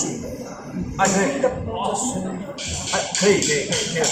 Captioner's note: Cantonese